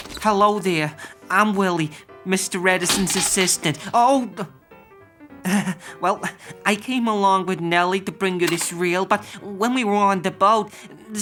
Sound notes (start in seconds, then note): 2.8 film canister clattering